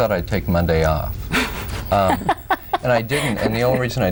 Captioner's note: laughs